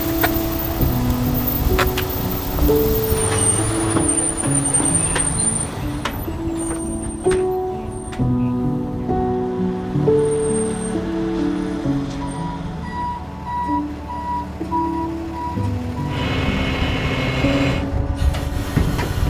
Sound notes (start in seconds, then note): 3.0 tow truck breaks squeaking; 8.1 somber instrumental music continues; 12.8 vehicle reverse signal beeping; 16.3 flatbed whirring